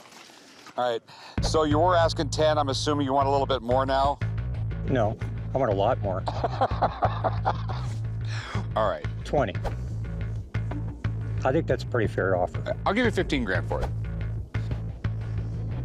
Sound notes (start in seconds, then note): 6.2 laughs